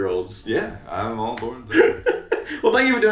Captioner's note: laughing